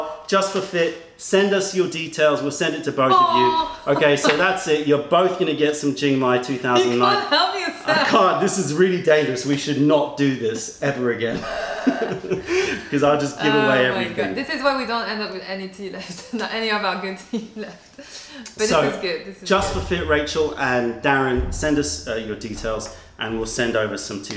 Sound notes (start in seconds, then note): 5.0 laughter; 9.0 laughter; 11.2 laughter